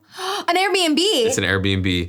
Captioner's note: gasps